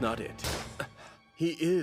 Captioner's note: gasp